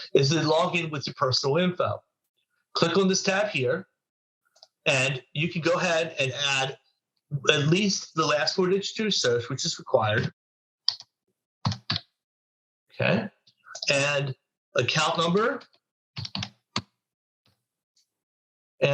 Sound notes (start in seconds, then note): 11.6 typing sound; 16.2 typing sound